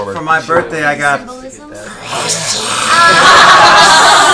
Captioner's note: Gollum voice